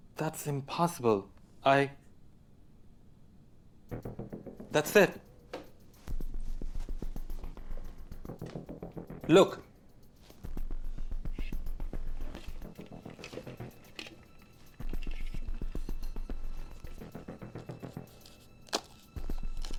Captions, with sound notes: - That's impossible, I, that's it. (suspenseful music) Look. (suspenseful music continues) (globe rattling) (suspenseful music continues)